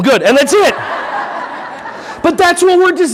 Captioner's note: audience laughing